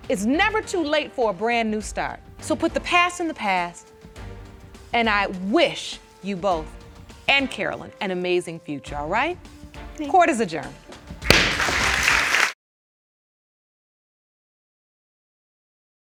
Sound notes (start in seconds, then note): 11.2 audience applauding